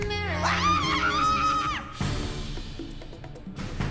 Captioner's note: screams